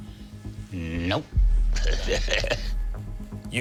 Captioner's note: laughs